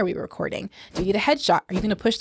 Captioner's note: whooshing